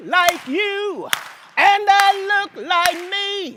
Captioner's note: applause